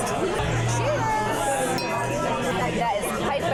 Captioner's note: glasses clinking